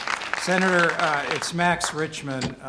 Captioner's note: applause